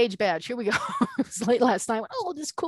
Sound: laughing

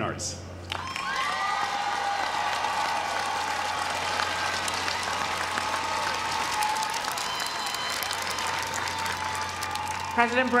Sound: applause

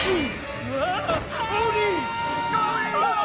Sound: screaming

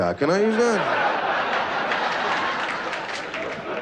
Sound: laughter

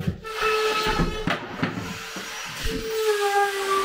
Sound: saw buzzing

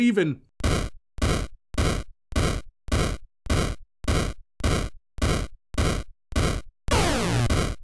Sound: weapon firing

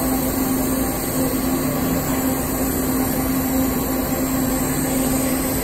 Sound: welding torch sizzling

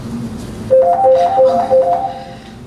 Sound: phone ringing

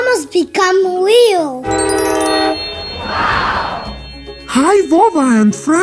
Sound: magic sound and woooow

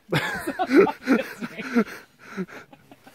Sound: laughing

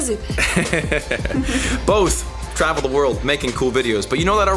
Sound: laughs

